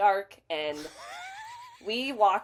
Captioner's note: laughs